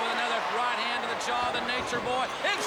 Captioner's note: crowd chatter